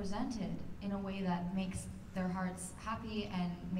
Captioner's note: none